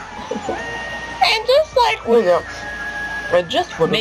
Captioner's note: in a scratchy, high pitched voice